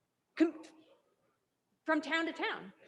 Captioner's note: student faintly speaking